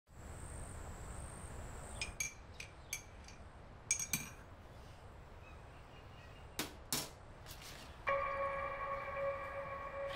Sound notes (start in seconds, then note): 2.4 spoon clinking; 8.0 eerie music